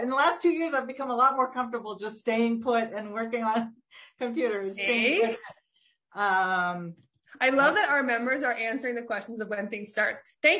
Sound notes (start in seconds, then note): 5.8 laughs